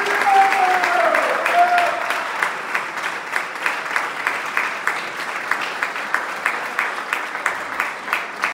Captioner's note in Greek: χειροκρότημα